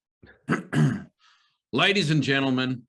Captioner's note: Nick clears throat